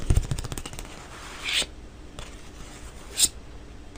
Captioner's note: paper scratching